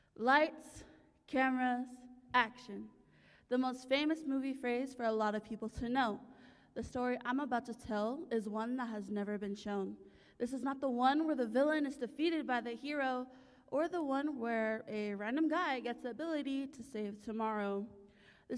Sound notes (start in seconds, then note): none